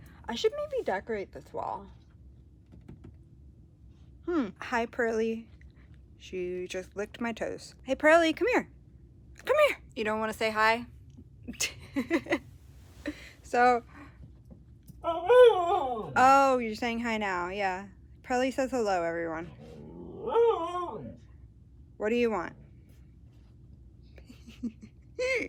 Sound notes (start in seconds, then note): 11.7 laughs; 14.8 Pearl howls in the background; 19.4 more howling; 24.2 laughs